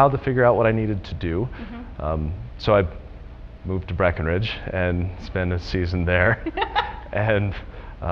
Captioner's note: laughter